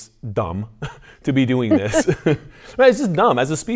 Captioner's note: laughs